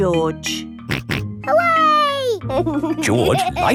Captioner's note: snorts and laughs